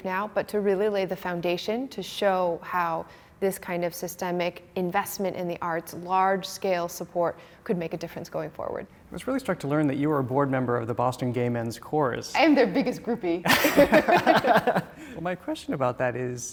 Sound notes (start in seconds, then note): 13.4 both laughing